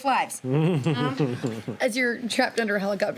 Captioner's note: laughing